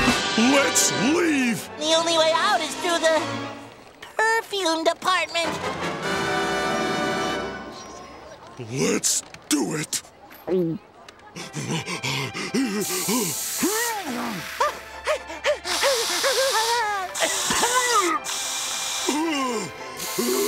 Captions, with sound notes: Let's leave. The only way out is through the... Perfume department. Let's do it! [panting]